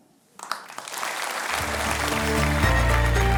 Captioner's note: applause